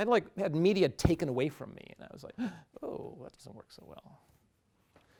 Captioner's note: gasps